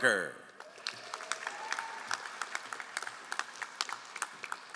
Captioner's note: all applauding